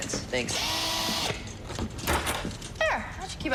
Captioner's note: door locks